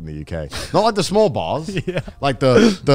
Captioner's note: laughs